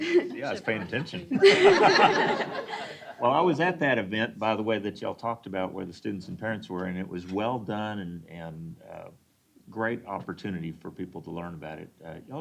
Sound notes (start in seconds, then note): 3.4 laughter